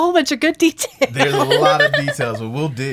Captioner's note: laughing